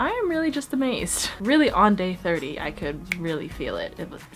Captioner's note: snaps fingers